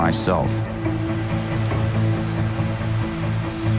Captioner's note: rain pattering; uplifting music